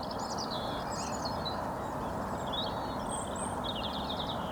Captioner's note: birds tweeting